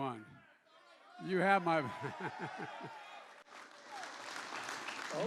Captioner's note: laughs